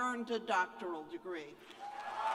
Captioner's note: cheers and applause